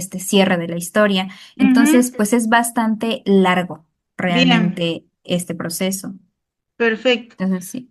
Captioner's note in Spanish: carraspeo